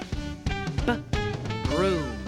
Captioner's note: making "b" sound